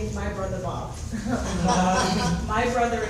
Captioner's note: audience chuckles